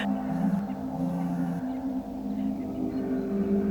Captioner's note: cellphone vibrating